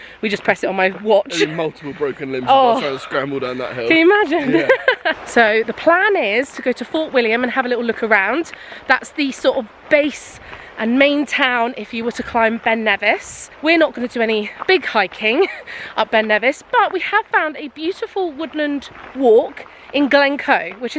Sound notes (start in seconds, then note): 3.8 laughing